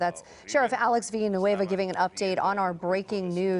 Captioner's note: speaking spanish